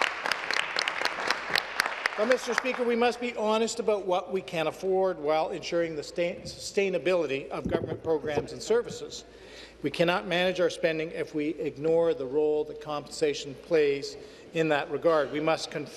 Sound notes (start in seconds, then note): 3.6 applause